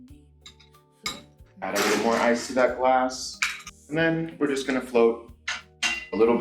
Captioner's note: ice clinking